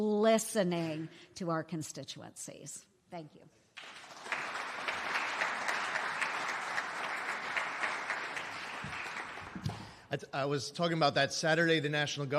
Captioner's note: applause